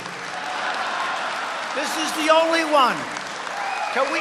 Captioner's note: laughter